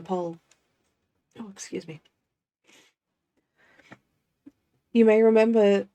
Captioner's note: sniff